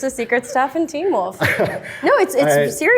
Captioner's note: laughs